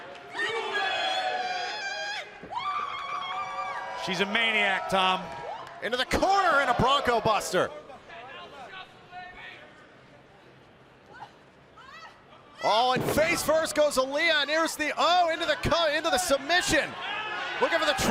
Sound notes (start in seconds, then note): 2.5 cheers and applause